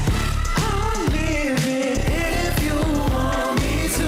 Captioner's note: crowd cheering